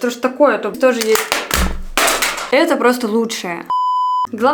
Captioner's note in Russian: Звук падения